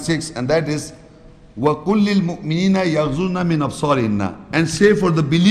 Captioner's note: Arabic